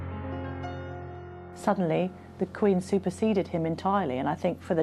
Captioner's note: voiceover